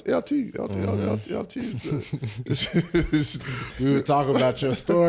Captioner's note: Eric laughs